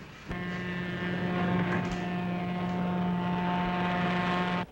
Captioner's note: train horn blowing